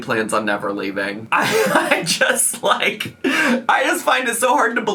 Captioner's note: laughs